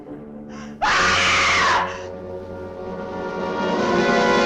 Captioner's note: Donna screams